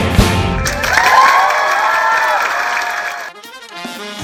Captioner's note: cheers and applause